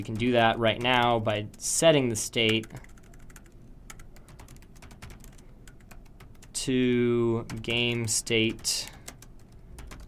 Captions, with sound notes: And then we can do that right now by setting the state, [Typing Noises] to game state,